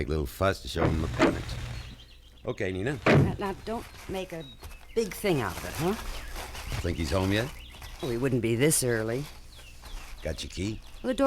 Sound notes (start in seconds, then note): 3.0 car door closes